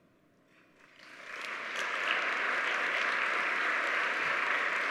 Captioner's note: audience applauds